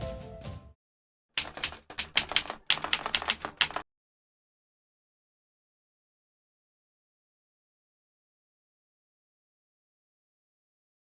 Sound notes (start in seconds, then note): 1.4 keyboard keys clicking